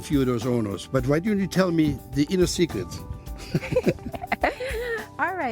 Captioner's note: laughs